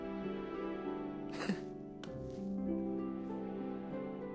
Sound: laughs

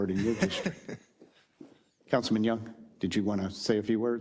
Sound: laugh

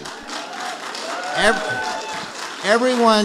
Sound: audience applauding

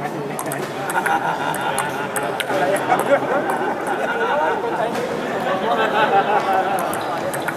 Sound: laughs

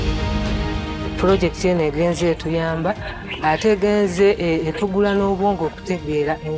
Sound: speaking in foreign language

